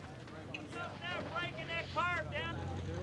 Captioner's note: indistinct chatter